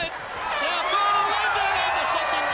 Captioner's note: crowd chatter